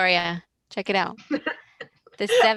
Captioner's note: laughs